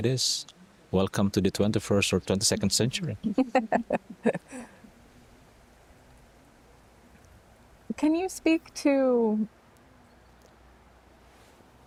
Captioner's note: laughter